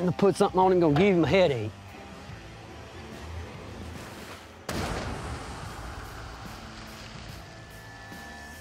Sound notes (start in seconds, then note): 4.6 gunshotot